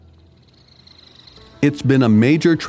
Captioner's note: birds chirping